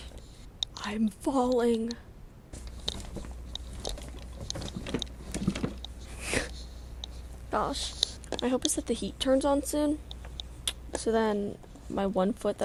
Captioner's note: struggling